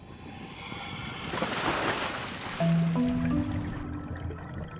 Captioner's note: water splashes